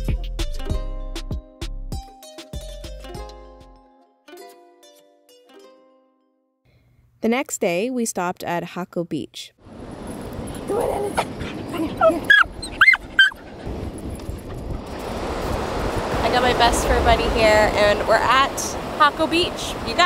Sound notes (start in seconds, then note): 10.3 waves crashing; 10.6 dog whining